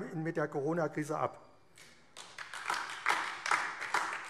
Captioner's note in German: Beifall AfD